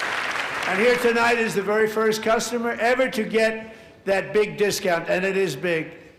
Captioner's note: applause